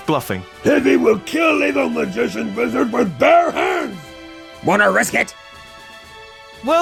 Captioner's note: Imitating Heavy; normal voice